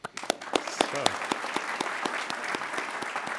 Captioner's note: applause